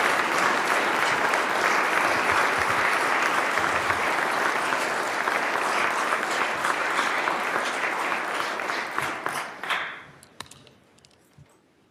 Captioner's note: applause